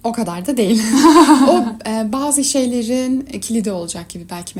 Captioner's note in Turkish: kahkaha